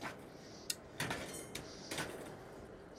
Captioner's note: clink, clatter